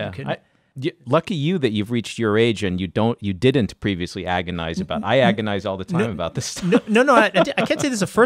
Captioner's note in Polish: śmieje się